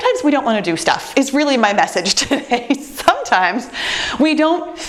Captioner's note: chuckles